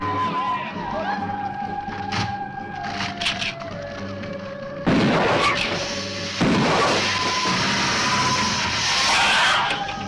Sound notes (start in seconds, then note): 4.9 gun firing; 6.0 lizard hissing